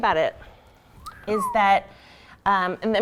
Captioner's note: whistling